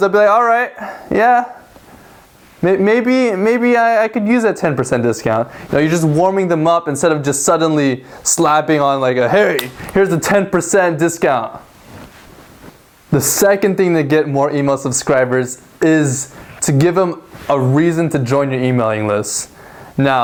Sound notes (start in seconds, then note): 9.4 slaps hand